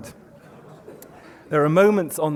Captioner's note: murmuring